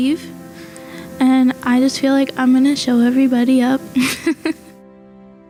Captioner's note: laughs